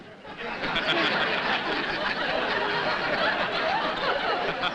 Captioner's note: laughter